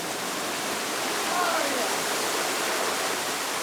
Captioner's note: rushing water; yells; rushing water